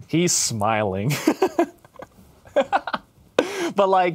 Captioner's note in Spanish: ríe